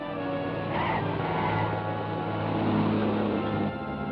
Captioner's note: tires squeal